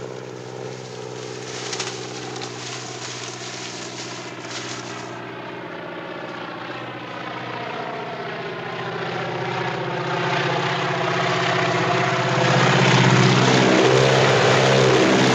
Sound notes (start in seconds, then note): 0.0 corn stalks rustling; 7.1 plane engine roaring